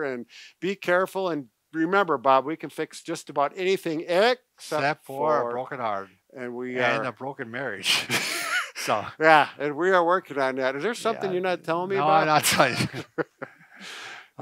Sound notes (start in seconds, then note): 7.9 laughs; 12.0 both laugh